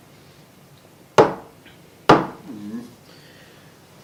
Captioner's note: knock knock